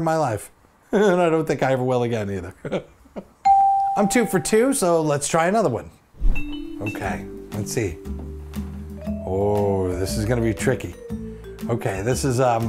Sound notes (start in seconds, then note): 2.6 laughs; 3.4 bell rings